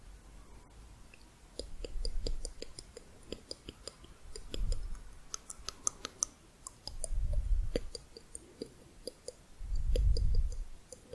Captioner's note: tongue clicking, back of mouth